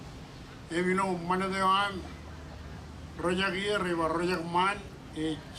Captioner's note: speaking Marshallese